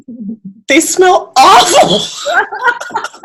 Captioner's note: laughs